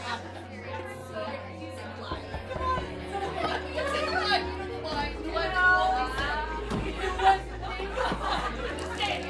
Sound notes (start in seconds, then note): 2.2 knocking; 4.7 party goers murmuring